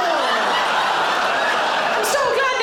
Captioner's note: audience gasps; audience laughing